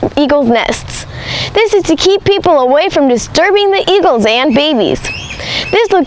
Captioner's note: eagles quacks